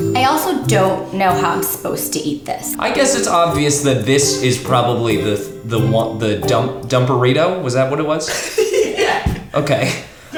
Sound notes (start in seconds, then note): 8.2 laughing